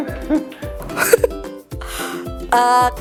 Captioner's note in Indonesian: Tertawa